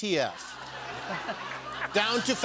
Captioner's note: laughter